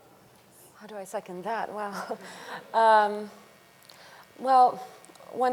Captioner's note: chuckles